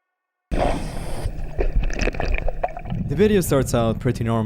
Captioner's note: water bubbling; air hissing